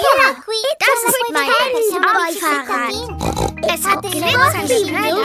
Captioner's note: snorts